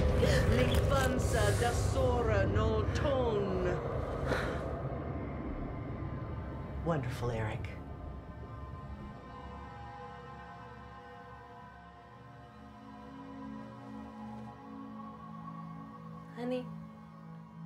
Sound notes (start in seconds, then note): 0.1 chanting continues; 4.2 sighs